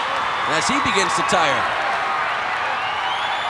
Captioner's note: audience cheering